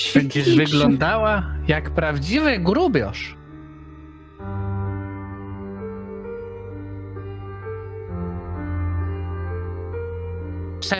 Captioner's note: he said it in Upper Silesian dialect